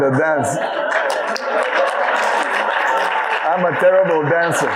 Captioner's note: audience laughing